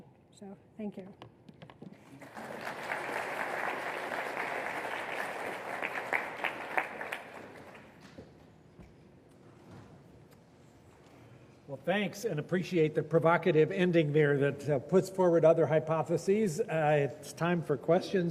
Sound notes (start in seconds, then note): 5.4 applause